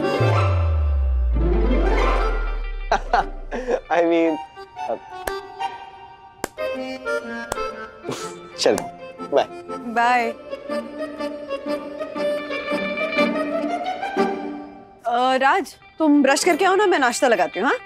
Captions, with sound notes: [laughs] I mean... I'll get going. Bye. Raj, brush your teeth. I'll serve breakfast.